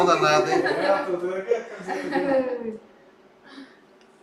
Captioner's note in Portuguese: risos